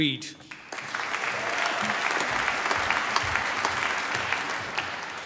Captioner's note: applause